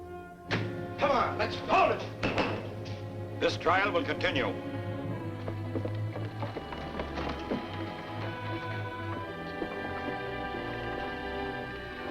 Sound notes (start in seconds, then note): 2.1 gavel banging